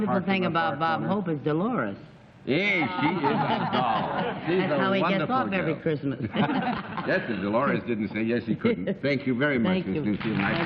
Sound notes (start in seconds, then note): 6.2 laughter